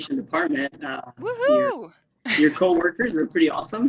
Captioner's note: cheering